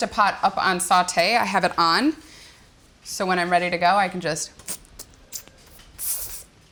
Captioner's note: searing sizzle noises